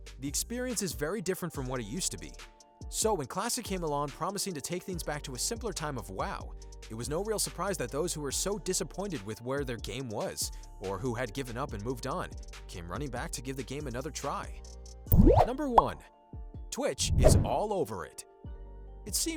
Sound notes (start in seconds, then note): 15.1 bubble popping sound